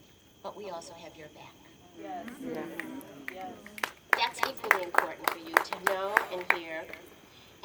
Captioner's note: audience saying yes and snapping fingers